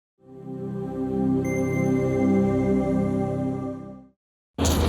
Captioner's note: gentle chiming